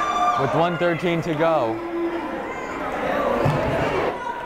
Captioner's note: yelling